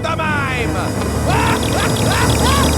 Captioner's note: gasps; laughing